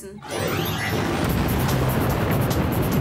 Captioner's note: buzzing